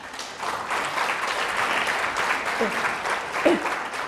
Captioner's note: applause